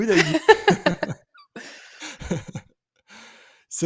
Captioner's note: laughter